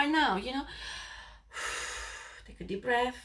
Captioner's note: blonde woman breathes deeply